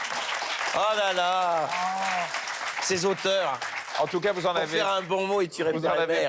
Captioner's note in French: applaudissements